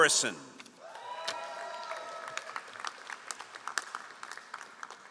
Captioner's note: all applauding